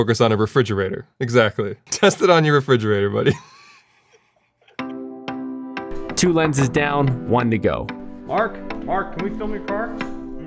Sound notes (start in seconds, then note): 3.2 laughing